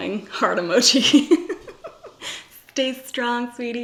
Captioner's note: laughs